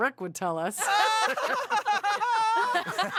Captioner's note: laughing